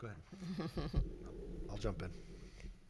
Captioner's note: laughs